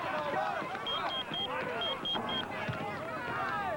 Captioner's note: pager beeps